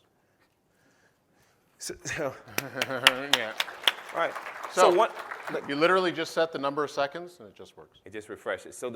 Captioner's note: applause